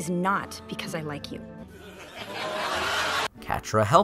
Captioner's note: canned laughter